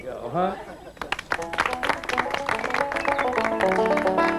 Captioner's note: applause